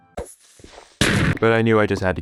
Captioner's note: boom